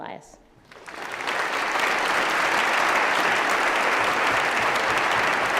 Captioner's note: applause